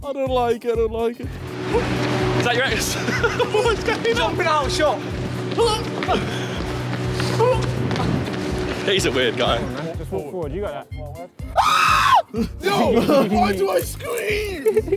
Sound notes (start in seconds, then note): 2.8 laughs; 3.9 grunts; 11.5 screams shrilly